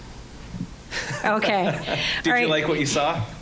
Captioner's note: scattered laughing